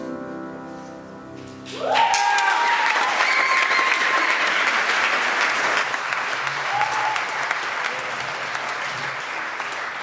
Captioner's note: applause